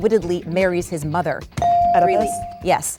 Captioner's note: bell dings